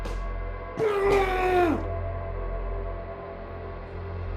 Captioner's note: Kenny screams